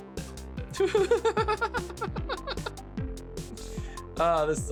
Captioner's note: laughing